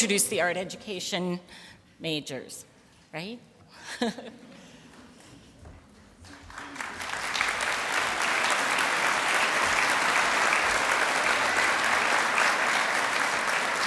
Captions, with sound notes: to introduce the Art Education majors, right? (applause)